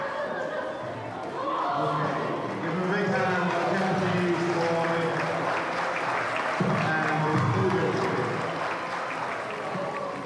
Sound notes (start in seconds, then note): 2.5 acoustics drown out loudspeaker announcement; 4.0 crowd cheering and clapping